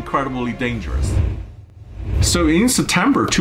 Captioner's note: air whooshing